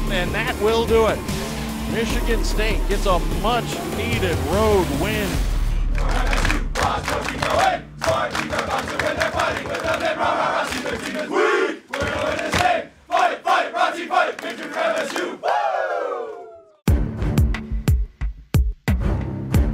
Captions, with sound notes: And that will do it. Michigan State gets a much needed road win. (clapping and chanting) (upbeat music)